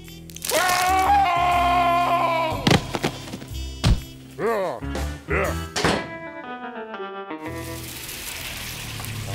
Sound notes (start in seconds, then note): 0.4 screams; 5.2 grunting; 5.7 door slams; 7.9 vehicle approaches